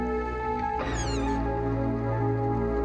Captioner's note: hinge squeaks